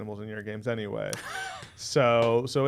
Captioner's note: chuckling